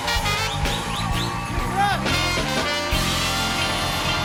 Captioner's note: cheers and applause